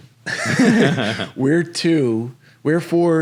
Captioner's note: both laughing